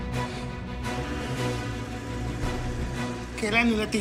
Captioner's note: car engine revvs